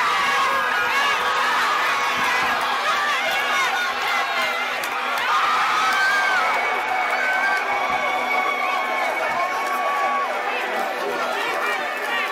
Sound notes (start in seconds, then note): 0.1 crowd cheering; 5.1 screaming